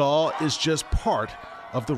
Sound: screaming

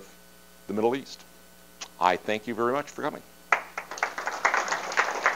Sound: audience applause

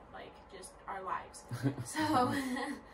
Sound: laughs

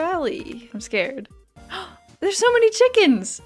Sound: gasp

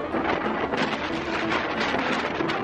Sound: wind rustles; playful music

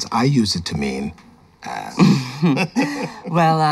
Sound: laughs; chuckle

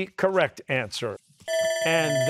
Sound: bell ringing

